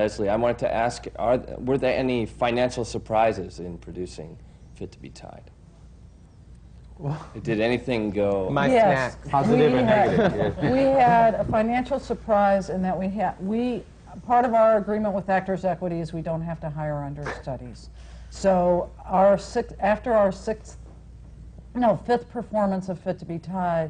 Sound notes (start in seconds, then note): 8.0 laughter